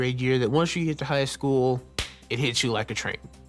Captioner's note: claps hands